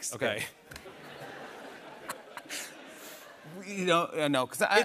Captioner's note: laughter